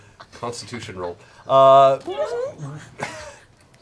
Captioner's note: fart noise